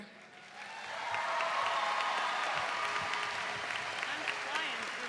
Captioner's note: audience cheering